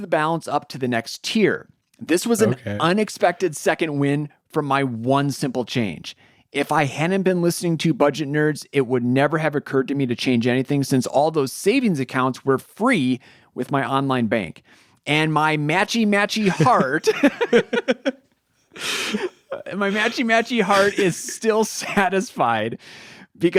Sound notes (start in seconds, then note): 16.4 both laugh